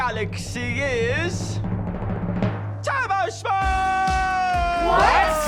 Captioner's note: audience cheers, applauds